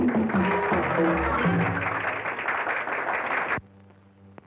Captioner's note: audience applauding